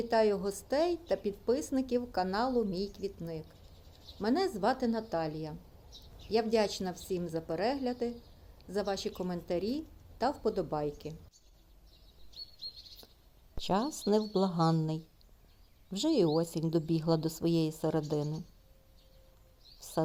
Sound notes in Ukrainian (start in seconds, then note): 10.1 щебет птахів